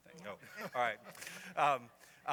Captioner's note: laughs